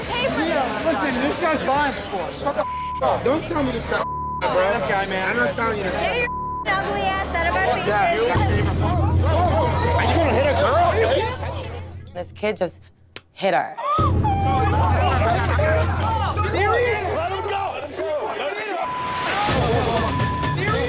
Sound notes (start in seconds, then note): 9.0 people yelling; 13.0 slams fist; 13.7 sobbing; 13.8 bar patrons shouting; 18.9 dramatic music